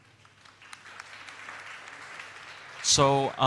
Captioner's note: audience applauds